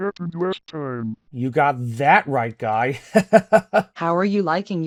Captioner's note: laughs